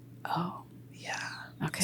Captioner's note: whispers